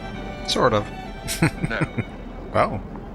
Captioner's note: chuckling